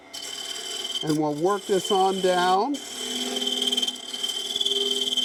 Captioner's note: machine vibrates